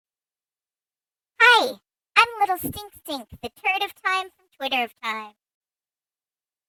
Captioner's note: in a very high pitched childlike voice